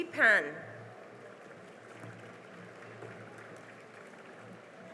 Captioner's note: cheering and applause